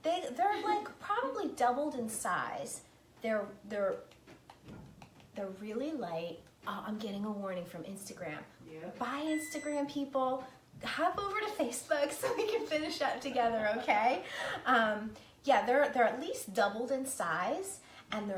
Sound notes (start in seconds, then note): 3.8 soft tapping